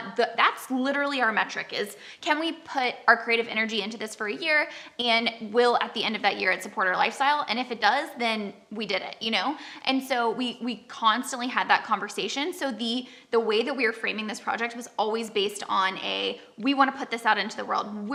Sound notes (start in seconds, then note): none